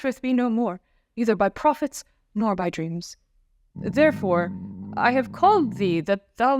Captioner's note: stomach rumble!